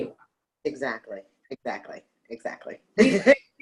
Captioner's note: laughs